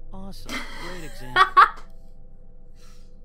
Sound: laughs

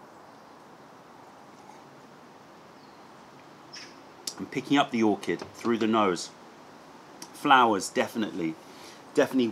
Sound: sips tea

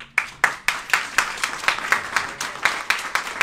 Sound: applauding

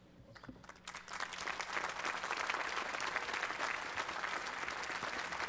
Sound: applause

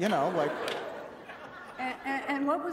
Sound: laughter

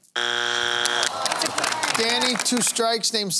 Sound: applause

